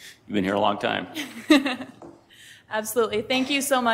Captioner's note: laughing